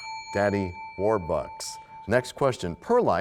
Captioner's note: bell rings, time expires